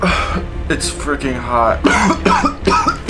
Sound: coughs

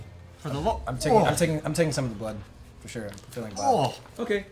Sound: gags

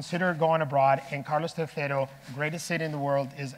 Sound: speaking in foreign language

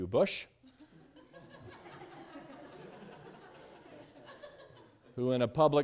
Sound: students laughing loudly

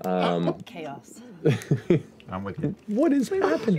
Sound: laughing; laughter

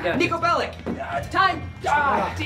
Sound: voiceover

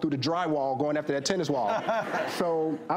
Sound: audience laughs

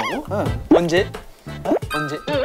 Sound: holding back his laughter

